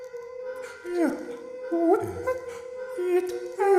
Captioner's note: someone speaking backwards